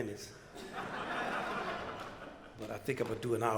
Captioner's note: crowd laughter